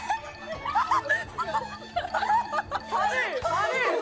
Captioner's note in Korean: 와하핳하하하핰하하핰